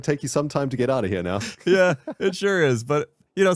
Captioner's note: laughs